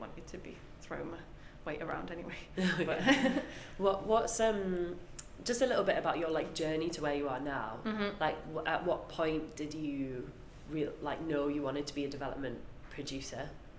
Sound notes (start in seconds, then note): 2.7 both laugh